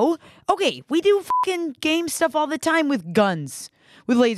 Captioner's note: beep